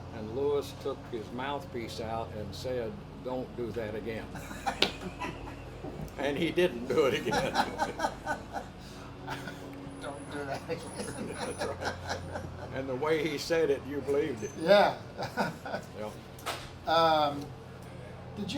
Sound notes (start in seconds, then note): 6.0 everyone laughs; 8.2 laughs